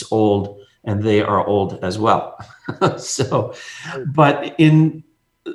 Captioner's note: laughs